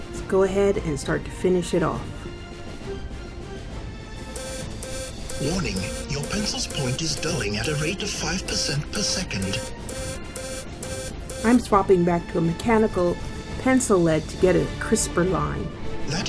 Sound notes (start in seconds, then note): 4.0 alarm beeping